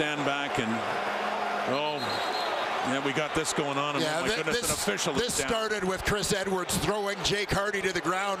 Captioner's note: crowd Noise